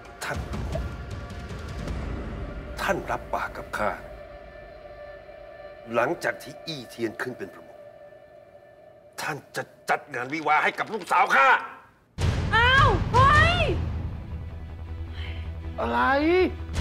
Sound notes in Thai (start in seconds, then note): 15.1 เสียงถอนหายใจ